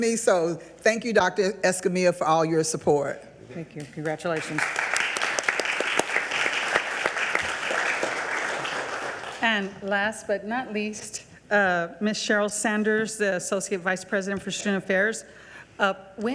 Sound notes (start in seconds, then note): 4.3 audience applauding